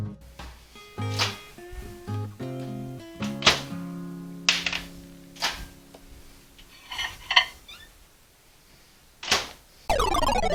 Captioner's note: sound of microwave opening and closing; sound effect